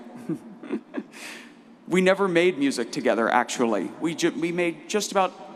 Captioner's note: laughs